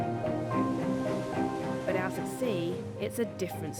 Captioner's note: water splashing